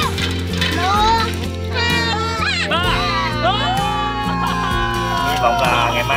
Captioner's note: cheering